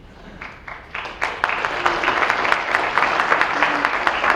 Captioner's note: audience applause